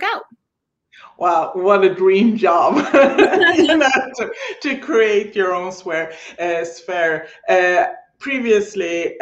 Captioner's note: laughing